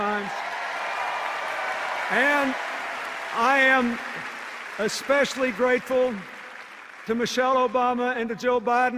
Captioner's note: cheers and applause